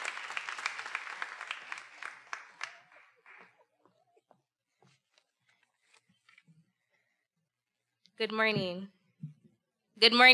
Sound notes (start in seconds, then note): 2.8 chuckling